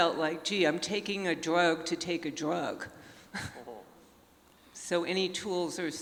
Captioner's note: chuckles